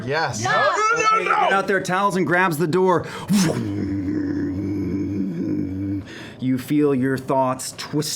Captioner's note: deep humming